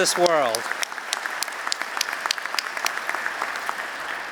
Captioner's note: applause